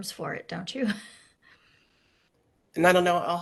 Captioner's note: chuckles